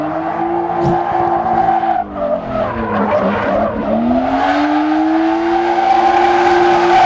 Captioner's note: tires screech; engine revs